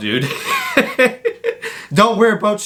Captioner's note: laughs sarcastically